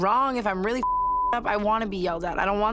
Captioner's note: beep